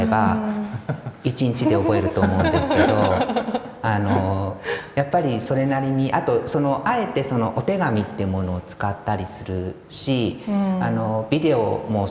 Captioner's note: laugh